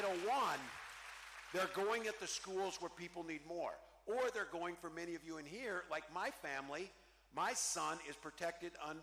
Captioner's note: applause